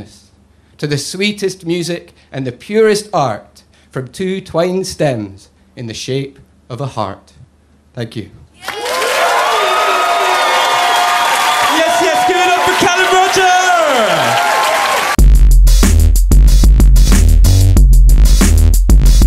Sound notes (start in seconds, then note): 8.6 crowd cheers